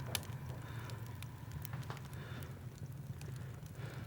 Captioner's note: sighs